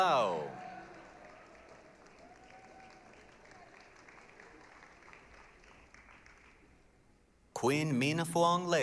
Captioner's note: applause, cheering